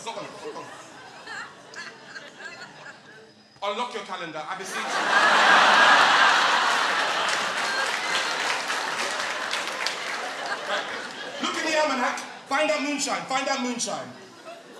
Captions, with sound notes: (audience laughing) Unlock your calendar, I beseech you! (audience laughing) (applause) Look in the almanac, find out moonshine, find out moonshine.